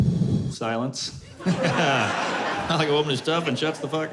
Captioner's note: laughter